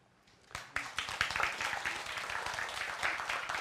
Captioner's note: applause